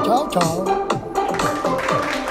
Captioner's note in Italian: Applauso